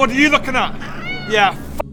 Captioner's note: meow